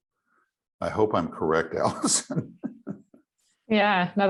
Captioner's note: laughing